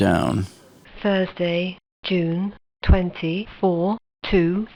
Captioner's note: computer Voice